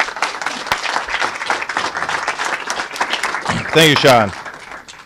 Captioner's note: applause